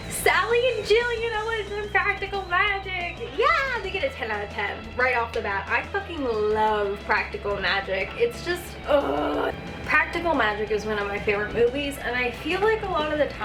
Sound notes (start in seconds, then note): 8.7 groan